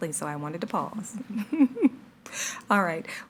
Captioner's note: participants laughing